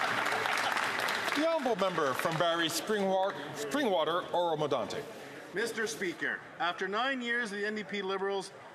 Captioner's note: some Applause